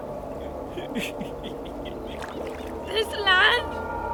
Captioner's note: laughing